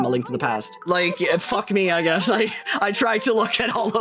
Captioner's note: laughing